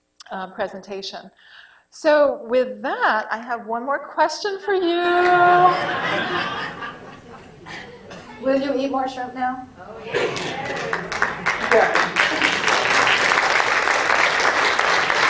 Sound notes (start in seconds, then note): 5.3 laughter